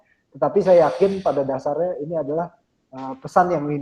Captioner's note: speaking indonesian